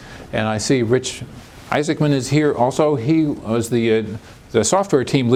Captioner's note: none